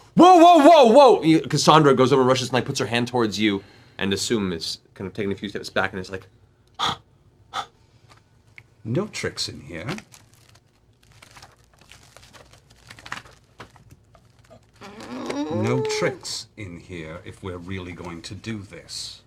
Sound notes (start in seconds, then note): 7.5 breathes heavily